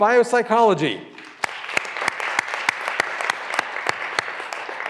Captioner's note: graduands applauding